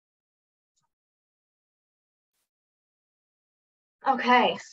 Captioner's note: silence